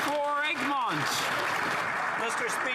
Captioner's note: applause